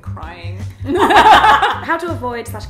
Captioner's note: laughs